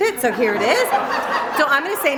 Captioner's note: laughter